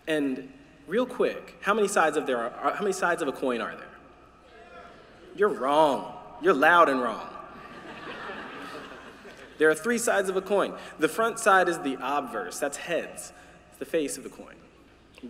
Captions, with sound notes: And real quick, how many sides of a coin are there? Two. You're wrong. You're loud and wrong. [LAUGHTER] There are three sides of a coin. The front side is the obverse, that's heads. The face of a coin.